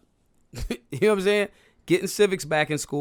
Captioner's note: laughs